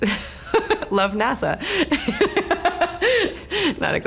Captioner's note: laughing